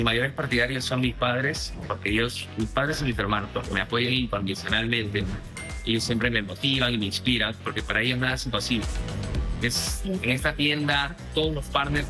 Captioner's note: speaking spanish